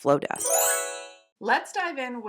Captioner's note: chime sound